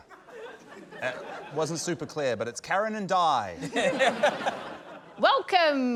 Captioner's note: laughter